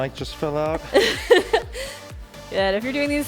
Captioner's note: laughing